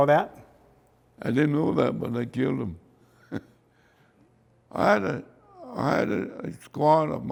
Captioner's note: chuckles